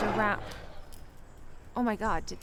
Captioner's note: animal grunting